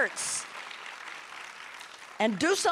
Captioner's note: audience applauding